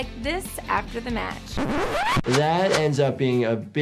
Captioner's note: tape scratching